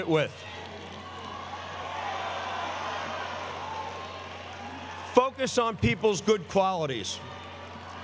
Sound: applause

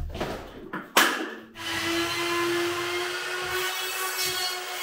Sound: saw whirring

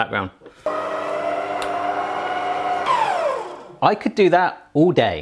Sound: mixer whirs

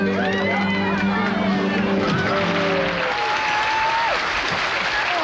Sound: group cheering

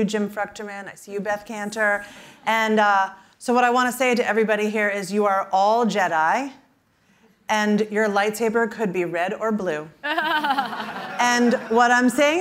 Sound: laughter

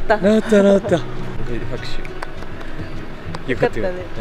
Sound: applause

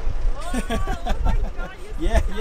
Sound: laughing

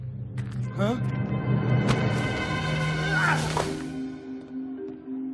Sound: none

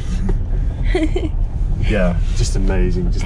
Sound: laughs

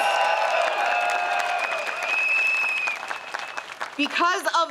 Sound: crowd cheers

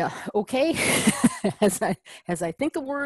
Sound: laugh

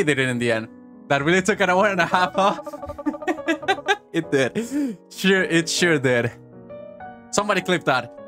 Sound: chuckles

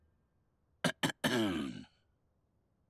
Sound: maître d' clearing throat

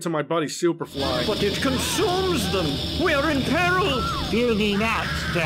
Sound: the beggar screams to death

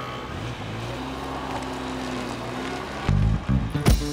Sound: scooter engine revving; car engine revving; upbeat music

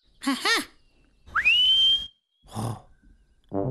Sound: whistles

